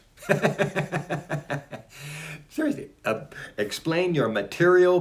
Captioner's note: laughs